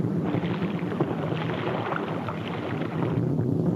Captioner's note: water splashes